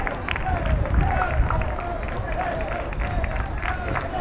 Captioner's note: fans chanting